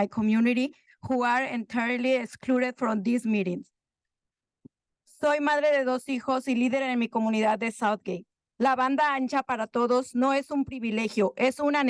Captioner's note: continues comment in Spanish